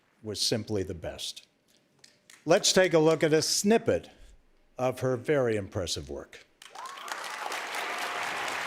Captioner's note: cheers and applause